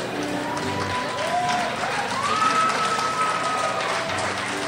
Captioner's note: crowd cheers